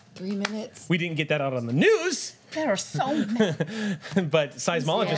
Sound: laughs

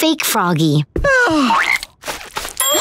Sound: sighing

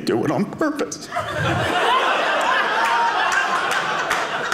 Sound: audience laughing

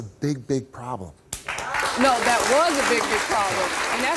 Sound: audience cheers

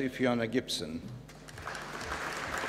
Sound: applause

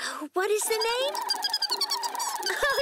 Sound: chirping; narrator laughs

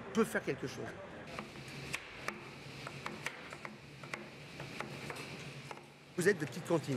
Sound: chopping sounds

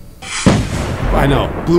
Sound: explosion

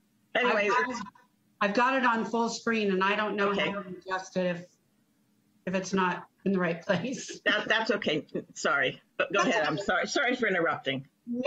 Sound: laughing

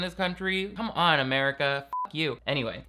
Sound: beep

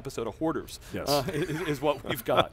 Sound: laughing

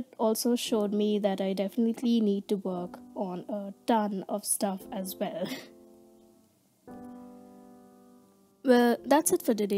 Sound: giggles

